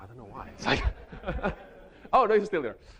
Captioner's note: chuckles; audience laughing